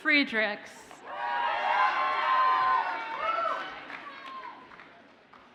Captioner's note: audience cheers and applauds